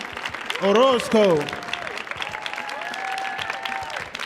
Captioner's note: audience cheering